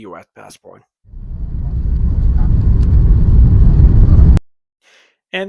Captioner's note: plane Engine Sound Builds